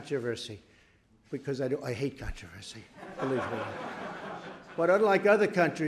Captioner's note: laughter